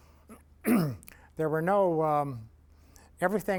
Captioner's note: clears throat